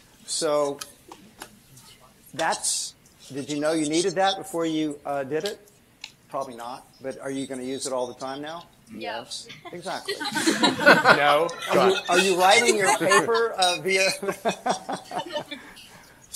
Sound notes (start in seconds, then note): 11.4 laughter